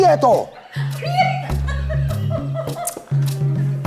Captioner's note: Moncha laughs